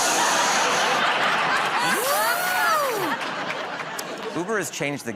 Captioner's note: imitates air hissing, door whirring